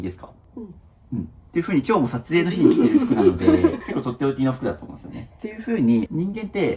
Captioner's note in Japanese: 笑い